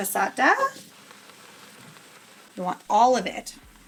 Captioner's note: food sizzling